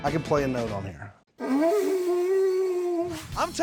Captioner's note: blowing